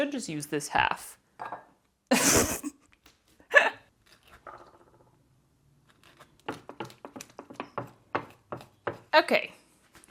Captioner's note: clink. Snorting laughter. Squishy grapefruit-y scrapey sounds